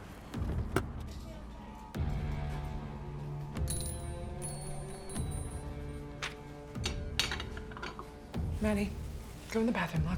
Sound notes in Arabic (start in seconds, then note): 0.1 موسيقى متوترة; 2.1 يفتح الباب، جلجلة الأجراس